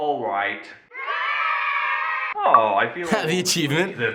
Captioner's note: children cheer